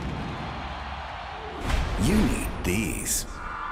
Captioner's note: cheers & applause